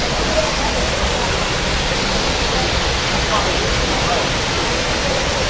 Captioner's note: waterfall sound